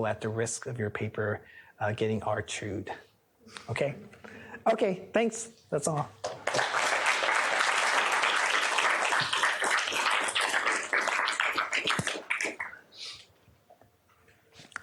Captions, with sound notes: at the risk of your paper getting hard-chewed? Thanks. That's all. [APPLAUSE]